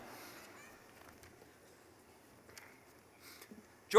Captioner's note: laughing